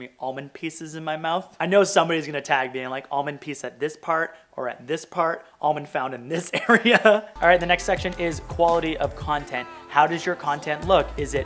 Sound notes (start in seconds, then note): 6.5 laughing